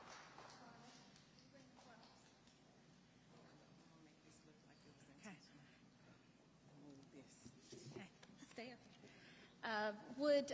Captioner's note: audience applauding; speaking quietly